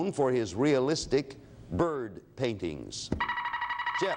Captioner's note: alarm sounds